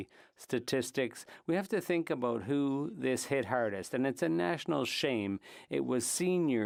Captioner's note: speaking French